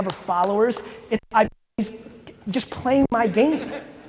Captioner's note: audio distorts